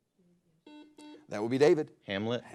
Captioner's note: buzzer blares